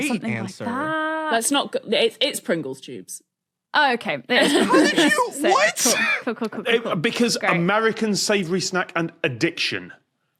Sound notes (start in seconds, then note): 4.4 laughs